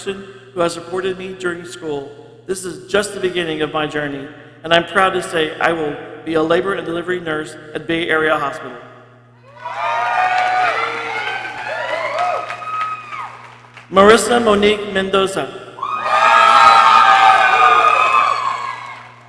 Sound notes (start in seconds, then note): 9.4 people cheering; 15.8 people cheering